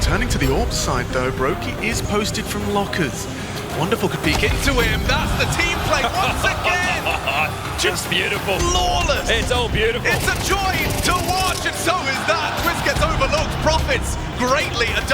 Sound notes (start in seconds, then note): 5.1 laughs; 10.1 gun firing